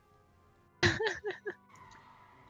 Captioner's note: haha